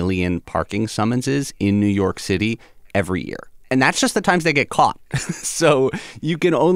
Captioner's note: laughter